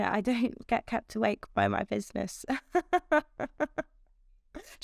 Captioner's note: laughs